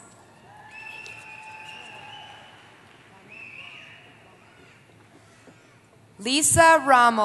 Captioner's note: applause